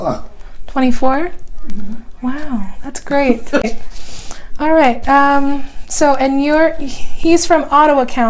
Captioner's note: laughing